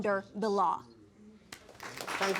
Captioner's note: applause